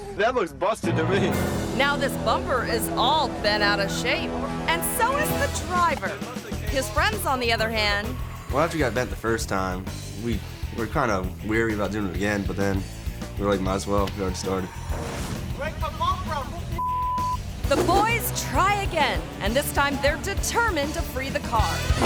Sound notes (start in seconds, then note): 16.8 beep; 21.8 bumper creaking